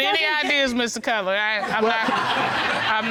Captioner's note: audience laughing